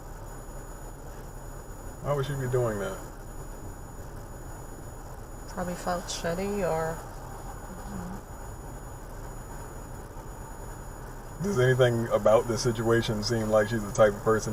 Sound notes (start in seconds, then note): none